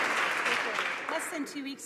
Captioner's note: some Applause